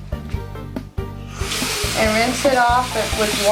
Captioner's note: running Water